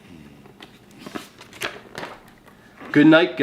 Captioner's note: page flipping